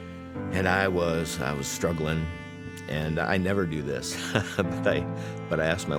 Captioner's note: chuckles